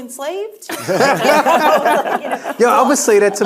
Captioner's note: panelists laughing